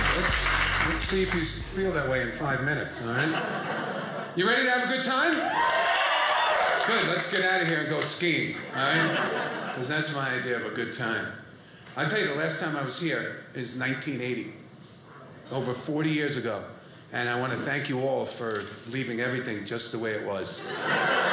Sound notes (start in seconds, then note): 3.0 audience laughing; 5.3 audience cheering; 8.6 audience laughing; 20.6 audience laughing